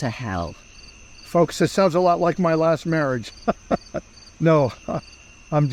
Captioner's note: laughs